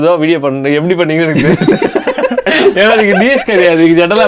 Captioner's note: group laughs